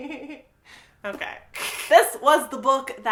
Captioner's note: laughs